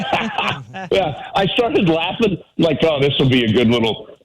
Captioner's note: laughing